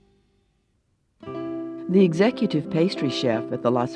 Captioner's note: voiceover